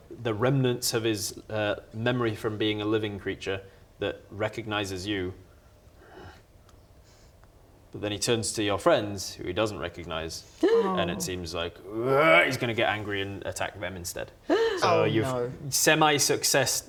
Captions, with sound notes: the remnants of his er memory from being a living creature that recognises you then he turns to your friends who he doesn't recognise - and it seems like - oh *rwarr!* he's gonna get angry and attack them instead *gasp!* - so you've - oh no semi-success